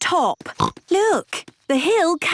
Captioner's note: snorts